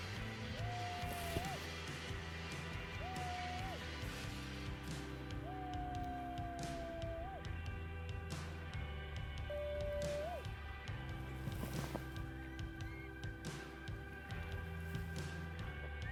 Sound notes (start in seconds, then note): 12.5 coyote calls